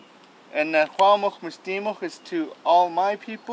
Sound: speaking Hul'qumi'num

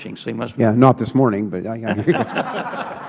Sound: laughter

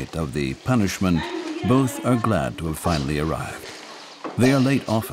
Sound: children laughing

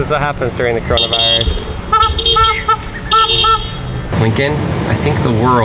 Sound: hooting

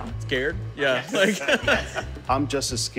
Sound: laughs

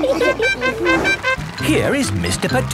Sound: all laughing; horn tooting

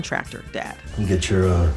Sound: soundbite of tv show, "the last of us"

